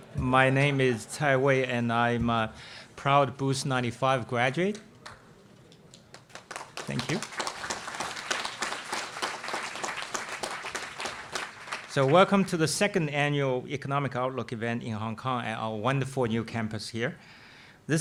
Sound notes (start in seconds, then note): 6.0 audience applauding